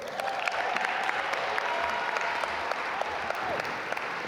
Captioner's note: audience applaud